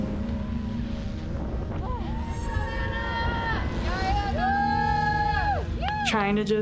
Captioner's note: cheering